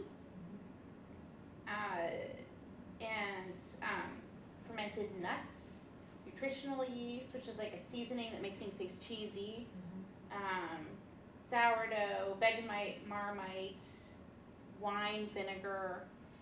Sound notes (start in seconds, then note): none